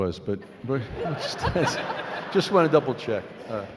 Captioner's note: laughing